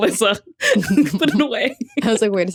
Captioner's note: giggles